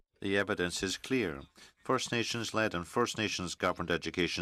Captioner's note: speaking French